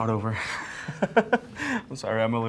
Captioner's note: laughs